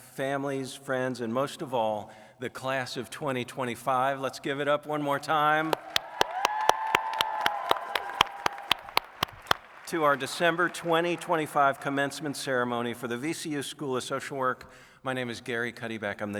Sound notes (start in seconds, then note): 5.0 audience cheers and applauds